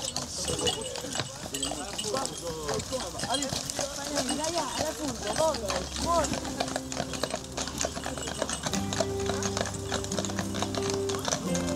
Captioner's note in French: bruit de pas des chevaux